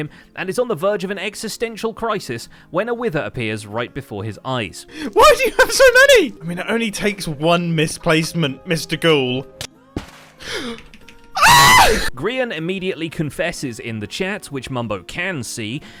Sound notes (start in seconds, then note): 10.5 gasps; 11.3 shrieks